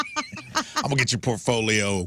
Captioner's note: laughing